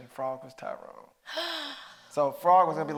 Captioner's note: gasping